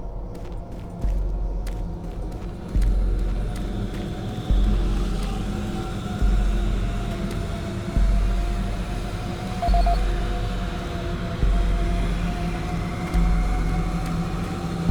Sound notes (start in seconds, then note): 0.1 suspenseful music; 4.6 beeping